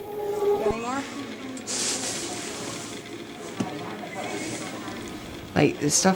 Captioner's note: chatter